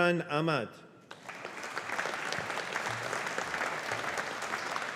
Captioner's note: audience applauding